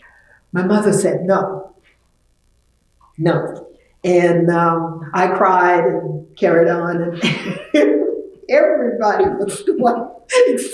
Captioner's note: laughs